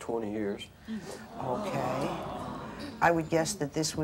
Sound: audience gasps

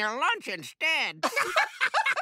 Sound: laughing

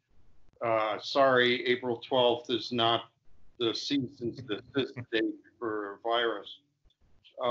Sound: murmurs

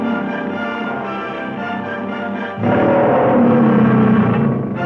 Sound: lion roaring

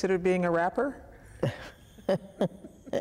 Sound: laughter

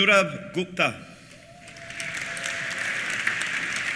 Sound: cheers; applause

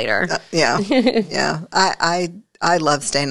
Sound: giggles

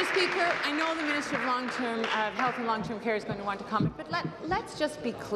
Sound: applause

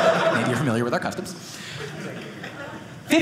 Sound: audience laughing

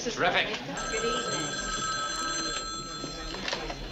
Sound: telephone ringing

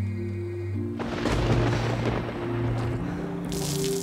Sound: distant thunderclap

